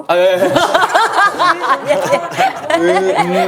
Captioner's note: hahahaha